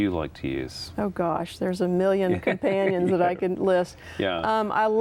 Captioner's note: laughter